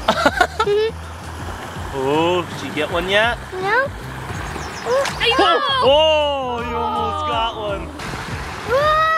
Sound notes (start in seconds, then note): 0.0 laughter; 5.1 shouting